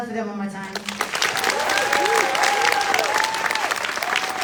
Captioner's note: applause